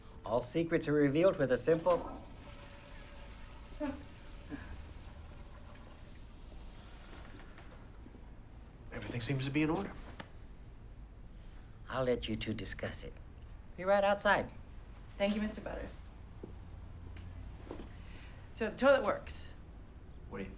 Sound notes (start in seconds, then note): 1.5 toilet flushing; 4.0 Bryn chuckles